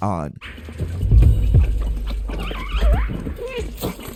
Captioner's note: puppies squeaking